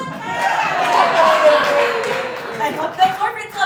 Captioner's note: audience Laughing